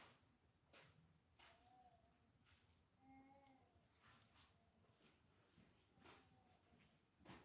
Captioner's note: baby cooing